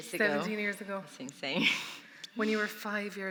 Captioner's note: chuckling